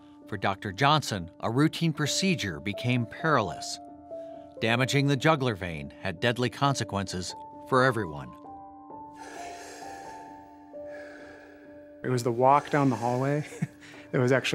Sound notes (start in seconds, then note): 10.7 heavy breathing; 13.4 chuckles